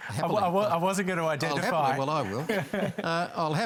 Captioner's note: chuckles